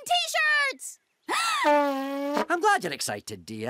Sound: inhales; horn blows

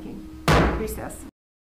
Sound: gavel thudding

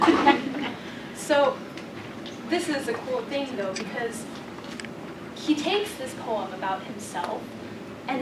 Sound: laugh

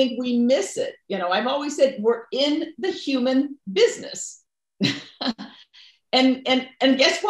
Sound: chuckles

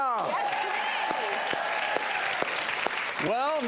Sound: applause

